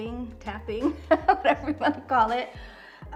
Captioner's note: laughs